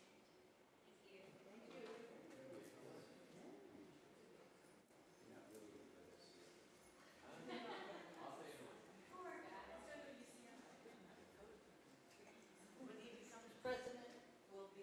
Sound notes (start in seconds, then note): 8.0 laughing